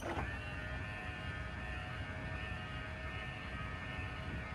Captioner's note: slide motor whirring